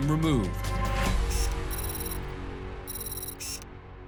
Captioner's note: digital beeping